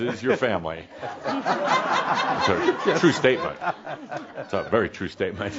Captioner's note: more chuckles